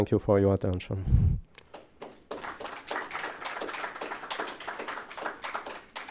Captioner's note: applause